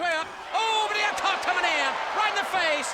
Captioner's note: audience cheers